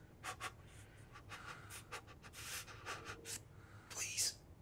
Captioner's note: Rusty panting